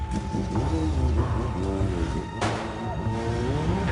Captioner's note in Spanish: Sonido del motor; Disparos